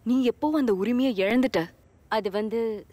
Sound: none

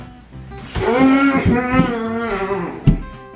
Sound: groaning

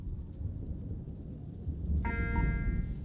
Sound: alarm starts

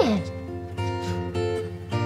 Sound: sniff

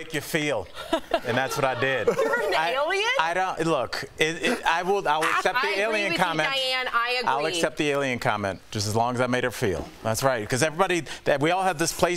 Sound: laughter

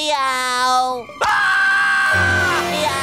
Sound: screaming

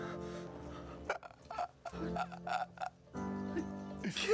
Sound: laughs

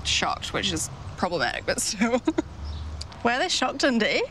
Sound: laughs

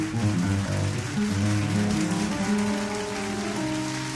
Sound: audience applauds

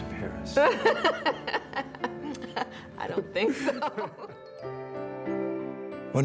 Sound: laughing

